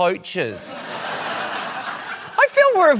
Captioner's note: laughter